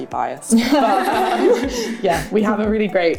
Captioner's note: laughter